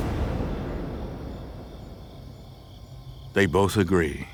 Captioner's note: insects chirping